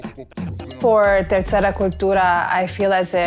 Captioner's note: speaking foreign language